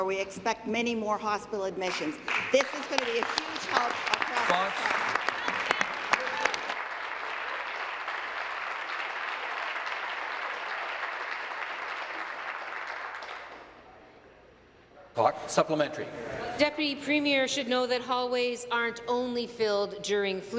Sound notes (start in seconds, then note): 6.7 applause